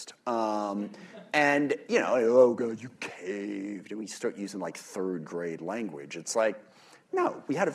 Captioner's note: laughter